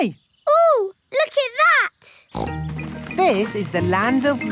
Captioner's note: snorts